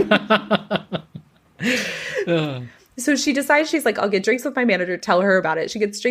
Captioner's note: lauhgs